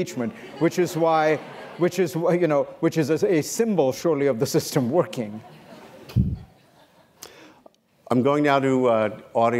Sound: laughter

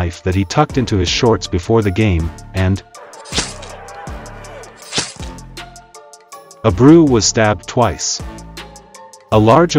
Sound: stabbing sound

